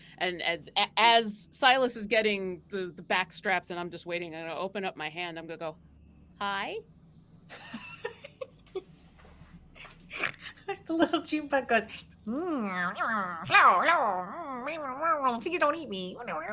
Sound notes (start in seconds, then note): 7.5 laughs